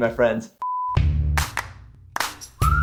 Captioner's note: beep; upbeat music